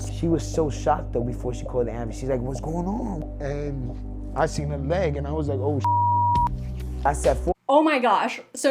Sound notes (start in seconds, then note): 5.8 beep